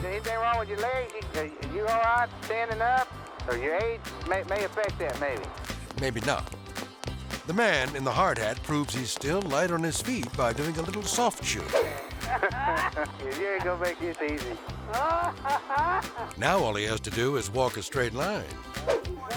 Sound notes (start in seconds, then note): 12.0 officer laughs; 14.8 driver laughs